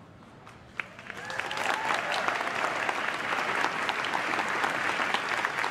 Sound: crowd claps and cheers

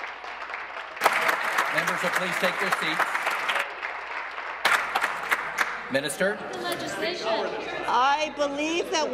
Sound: applause

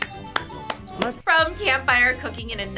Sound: claps

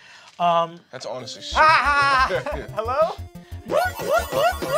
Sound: shouts

